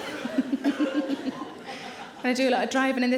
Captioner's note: Sarah giggles